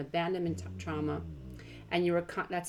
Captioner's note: dog groaning